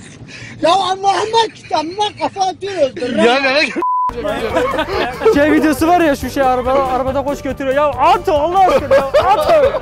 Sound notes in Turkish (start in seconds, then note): 4.2 Gülüşmeler